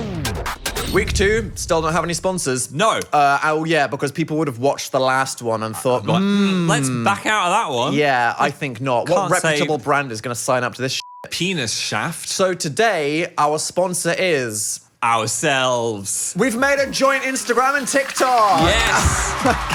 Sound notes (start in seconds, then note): 0.0 upbeat music; 11.0 beep; 17.0 upbeat music